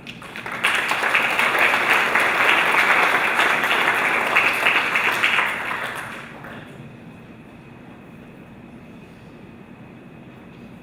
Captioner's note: applause